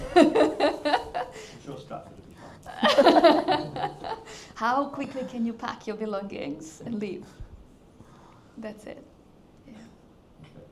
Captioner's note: laughs